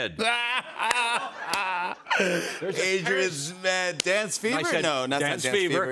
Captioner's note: laughs